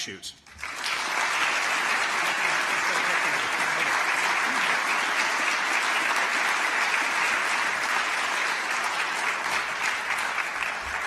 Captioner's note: applause